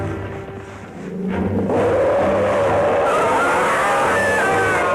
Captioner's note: roaring